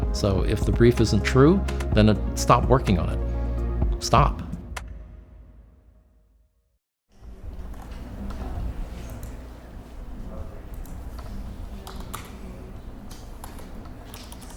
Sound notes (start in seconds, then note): 8.9 mouse clicks; 11.9 typing